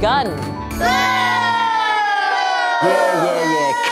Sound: boo

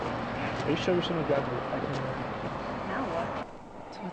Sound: chattering

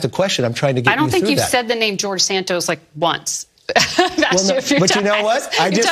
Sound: laugh

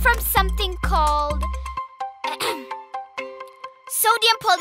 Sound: clearing throat

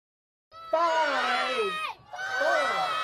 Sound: crowd

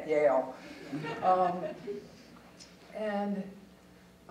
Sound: audience chuckling

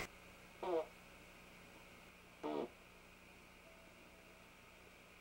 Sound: fake fart sounds

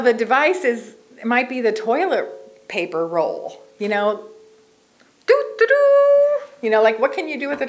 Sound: imitates Horn Tooting

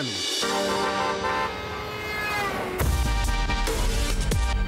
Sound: honking, intense music

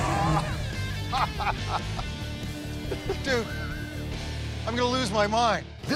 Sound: laughs

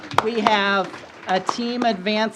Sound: applause

